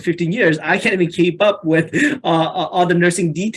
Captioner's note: chuckles